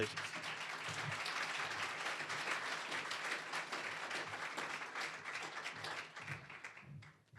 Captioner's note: applause